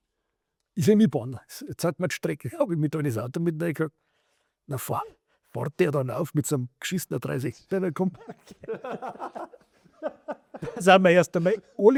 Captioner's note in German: gelächter